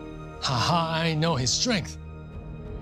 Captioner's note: laughing